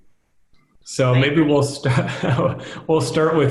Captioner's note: laughing